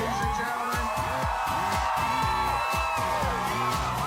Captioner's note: crowd cheering